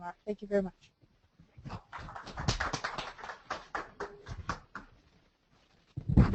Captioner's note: applause